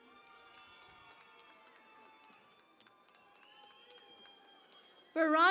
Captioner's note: cheering and Applause